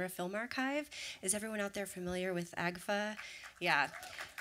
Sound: applause

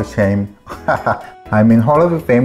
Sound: laughs

